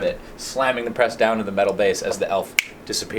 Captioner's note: snaps